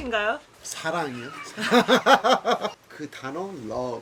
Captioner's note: laughing